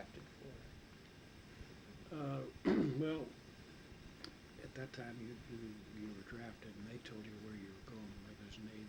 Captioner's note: coughs